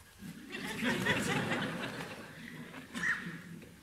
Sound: audience laughing

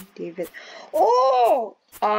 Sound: fascination noises intensifies

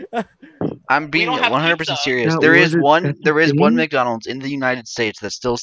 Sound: gasps

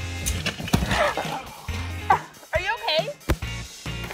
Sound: groans

